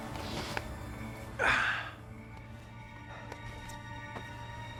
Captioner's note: James exhaling